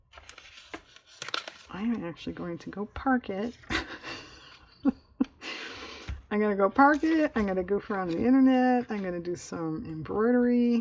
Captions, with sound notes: i am actually going to go park it (laughs), i'm going to go park it, i'm going to goof around on the internet, i'm going to do some embroidery